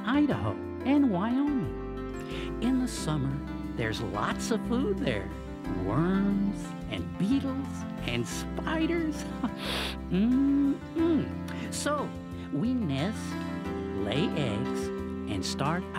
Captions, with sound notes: and Idaho, and Wyoming. In the summer, there's lots of food there. Worms, and beetles, and spiders. (chuckles) Mm-mm! So, we nest, lay eggs, and start our families.